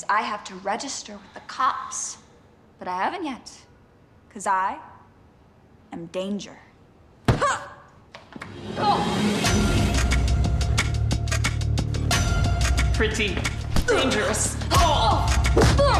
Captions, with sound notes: I have to register with the cops, but I haven't yet, 'cause I am danger. (fist thudding) (Riley grunting) (action music) - Pretty dangerous. (Riley grunting)